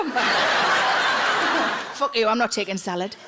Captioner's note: audience laughs